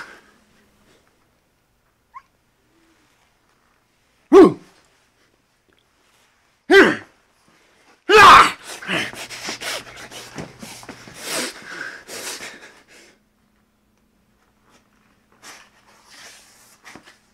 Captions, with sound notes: (hiccups) hooo! Heeeh! Ahhhh!